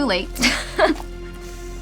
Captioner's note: laughs